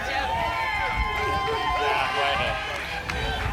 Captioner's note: crowd cheering